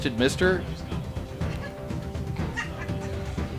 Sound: laughing

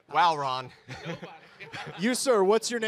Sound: laughs

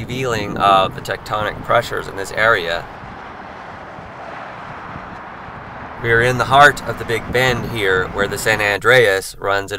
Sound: road noise

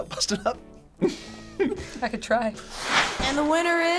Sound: laughs

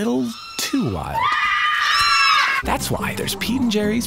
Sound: ostrich screaming

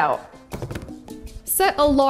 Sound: chopping board thuds

